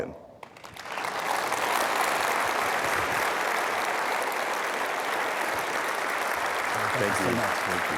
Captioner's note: applause